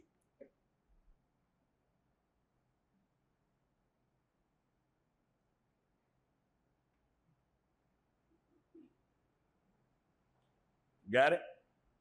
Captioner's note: silence